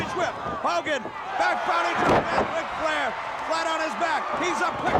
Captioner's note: crowd drowns out other sounds